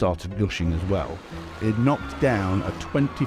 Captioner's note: people screaming